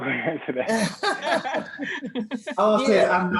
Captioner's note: all laughing